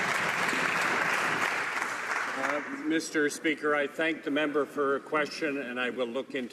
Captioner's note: some Applause